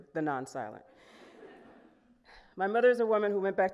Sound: audience laughing

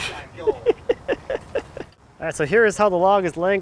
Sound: laughing

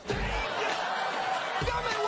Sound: audience applause

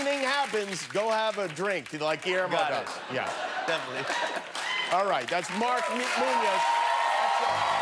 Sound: cheers and applause

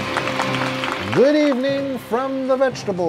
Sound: crowd cheering; opening music

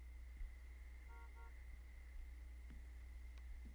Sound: car horn honking

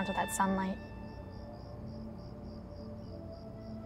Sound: crickets chirping

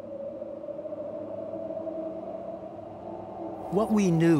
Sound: wind whooshing

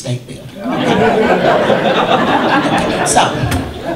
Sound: audience laughter

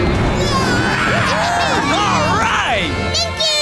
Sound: cheering

